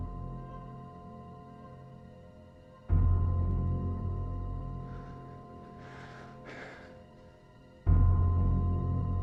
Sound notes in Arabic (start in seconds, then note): 0.0 موسيقى تشويق; 4.7 يتنفس بصعوبة; 7.5 موسيقى تشويق